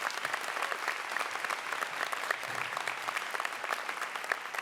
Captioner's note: applause